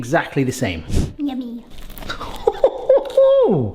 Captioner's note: screen wipe whooshes; chucking excitedly